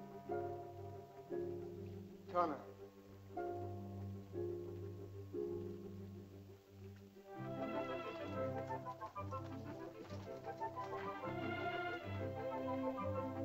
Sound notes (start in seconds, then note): 2.2 man speaks in caveman language; 4.2 tense music; 7.3 whimsical music